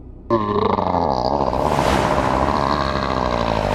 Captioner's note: giant Grunting